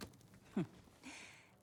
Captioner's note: laugh